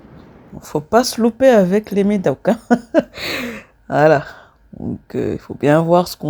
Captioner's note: laughter